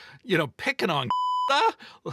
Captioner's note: beep